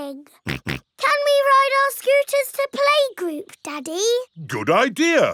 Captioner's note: snorts